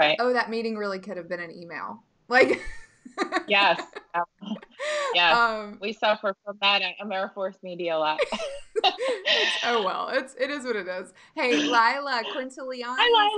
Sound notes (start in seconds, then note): 3.1 laughing; 8.2 laughing